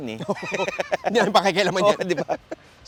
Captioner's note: laughs